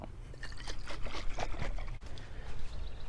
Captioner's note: sploosh sploosh sploosh sploosh sploosh sploosh